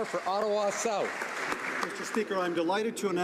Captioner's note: some Applause